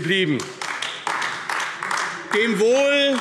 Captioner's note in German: Beifall AfD